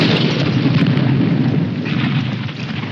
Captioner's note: artillery exploding